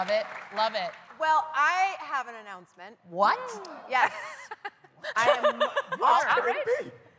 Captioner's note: cheers and applause